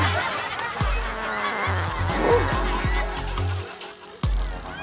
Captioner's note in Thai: ผายลม